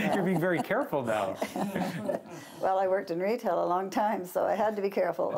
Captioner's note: laughter